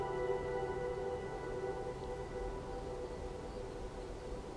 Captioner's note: wind whooshing